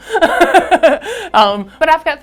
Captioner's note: laughing